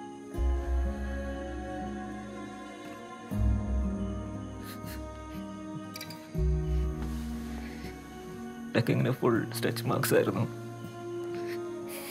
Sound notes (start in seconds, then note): 8.4 sobbing